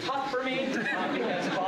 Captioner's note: laughter